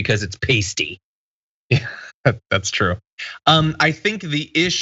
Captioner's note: laugh